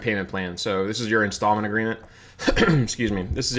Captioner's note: clears throat